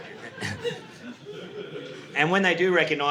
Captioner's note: audience laughing